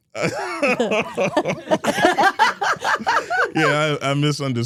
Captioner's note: all laughing